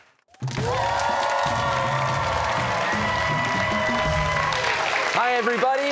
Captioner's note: cheers and applause